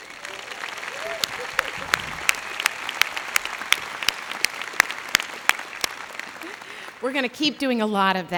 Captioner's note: applause